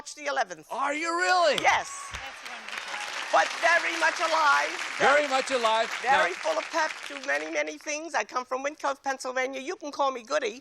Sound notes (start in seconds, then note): 1.5 applause